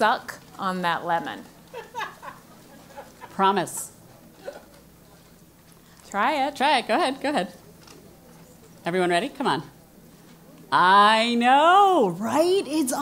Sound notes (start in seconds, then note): 1.6 laugh